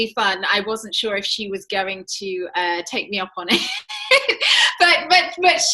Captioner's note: laughs